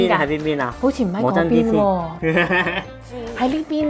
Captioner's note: laughing